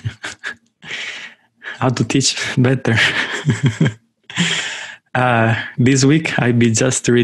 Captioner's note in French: rires